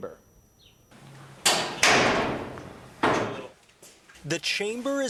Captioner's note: metal clanging